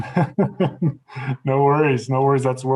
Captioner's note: laughs